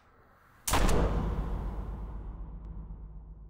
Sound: boom

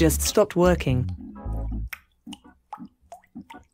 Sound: drips

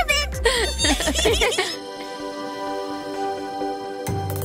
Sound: all giggling

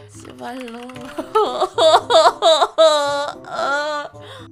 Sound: typing

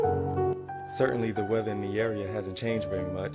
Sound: radio Announcer

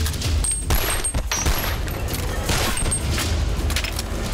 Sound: gun shots

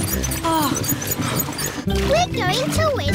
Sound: groans

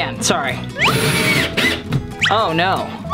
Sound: screwdriver whirs

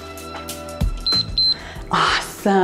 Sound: timer beeps

